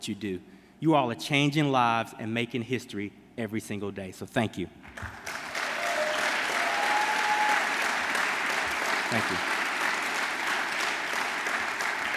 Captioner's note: applause